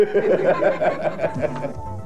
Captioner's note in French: rires